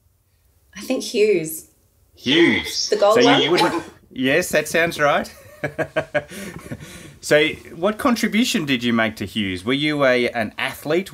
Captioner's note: laughing